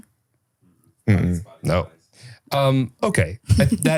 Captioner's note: crew member speaking faintly